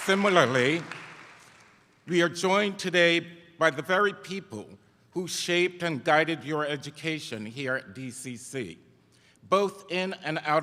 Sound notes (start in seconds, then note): 0.0 cheers; 3.0 applause